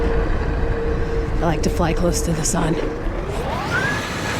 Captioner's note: conspiratorily